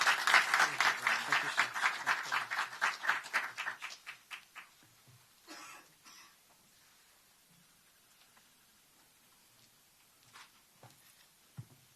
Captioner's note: applause